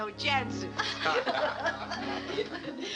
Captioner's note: laughter